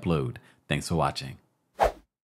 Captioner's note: air whooshes